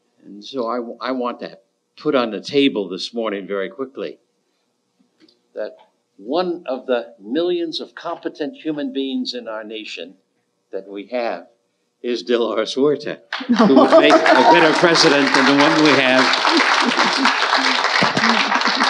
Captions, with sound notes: And so, I want that put on the table this morning very quickly. That one of the millions of competent human beings in our nation, that we have, is Delores Huerta. (audience applauding) (Delores laughing) Who is a better President than the one we have.